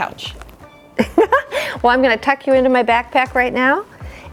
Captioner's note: laughs